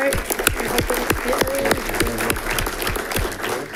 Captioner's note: audience clapping